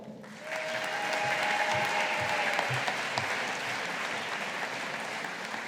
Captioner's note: audience applauding